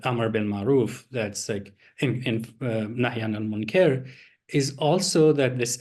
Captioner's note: non-english speech